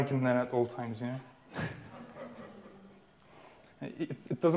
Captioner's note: audience laughing